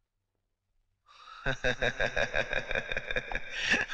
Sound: laughing

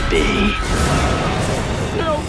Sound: thundering

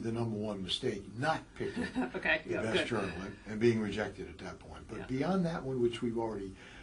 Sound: laugh

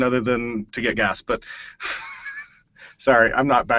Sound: laughs

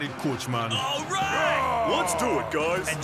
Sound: grunts

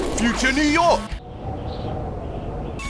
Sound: wind blows

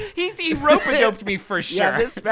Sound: laughing

